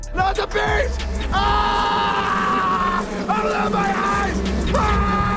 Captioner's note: screaming